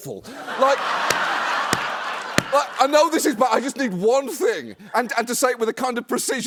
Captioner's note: laughter